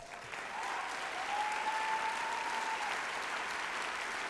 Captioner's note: applause and cheering